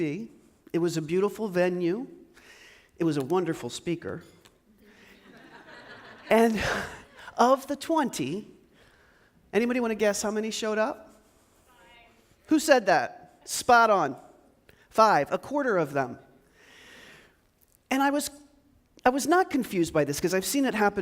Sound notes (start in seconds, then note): 5.1 audience laughs